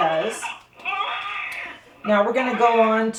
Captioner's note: baby mannequin cries